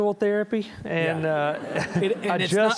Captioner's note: audience chuckling